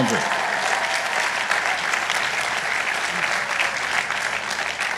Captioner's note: audience applauding